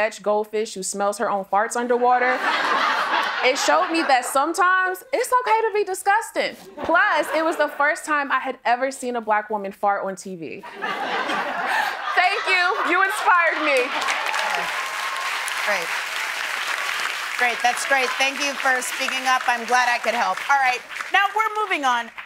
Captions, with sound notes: "Goldfish Who Smells Her Own Farts Underwater," it showed me that sometimes it's okay to be disgusting. Plus, it was the first time I had ever seen a Black woman fart on TV. [laughter] Thank you! You inspired me! [applause] Oh, great. Great. That's great. Thank you for speaking up. I'm glad I could help. All right, now we're moving on.